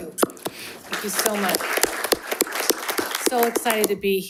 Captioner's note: group applauds